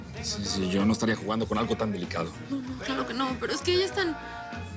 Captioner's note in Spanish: none